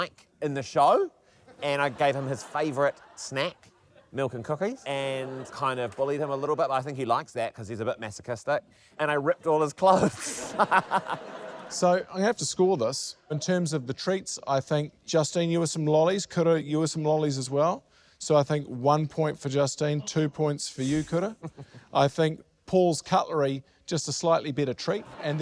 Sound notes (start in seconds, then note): 9.9 laughs